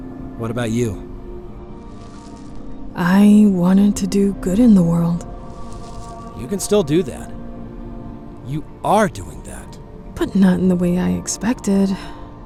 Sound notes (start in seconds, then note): none